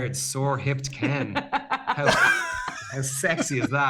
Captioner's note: laughter